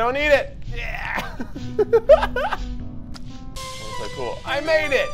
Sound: laughs

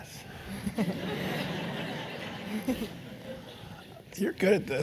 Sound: laugh

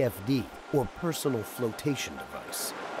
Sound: voiceover

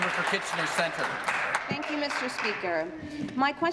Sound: applause

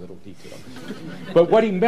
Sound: laughter

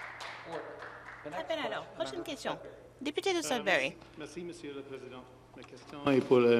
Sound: some Applause

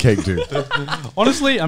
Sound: laughing

